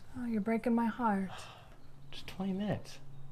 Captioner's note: sighing